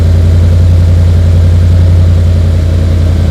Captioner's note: engine Revving